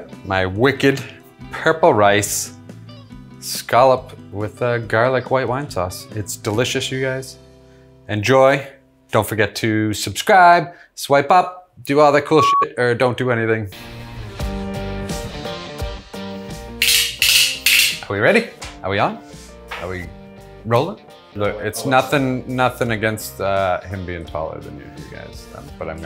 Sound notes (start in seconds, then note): 13.7 upbeat music; 16.8 tongs clicking